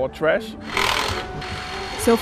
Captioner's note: tools rattling